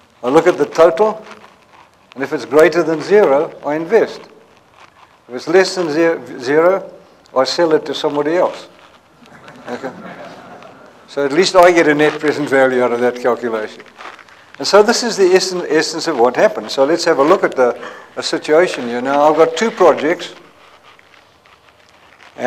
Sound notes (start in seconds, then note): 9.2 laughter